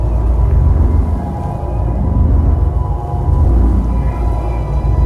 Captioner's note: power pulsing